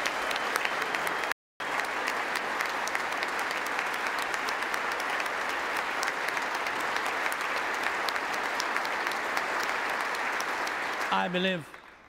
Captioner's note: applause